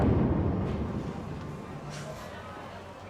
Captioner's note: patrons chattering